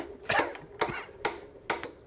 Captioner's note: he coughs